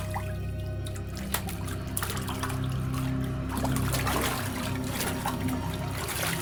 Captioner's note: tense music; water splashes